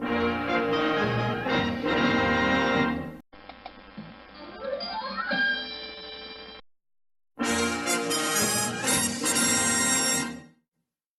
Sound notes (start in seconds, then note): 4.8 mouse clicking, cartoon music playing; 7.4 old-fashioned music resuming